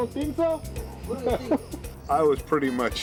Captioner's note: chuckles